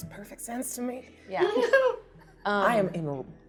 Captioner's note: laughing